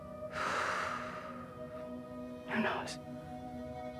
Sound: Natalie exhales

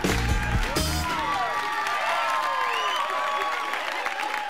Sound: crowd Cheering; cheering, Applause

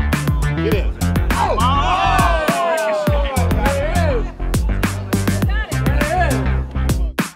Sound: cheering

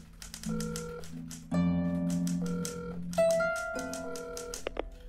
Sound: phone ringing; typewriter clacking

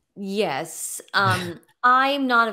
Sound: laughing

